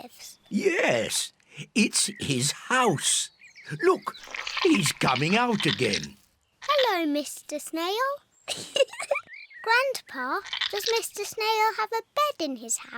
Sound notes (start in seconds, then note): 8.4 giggles